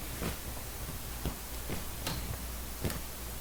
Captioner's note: white noises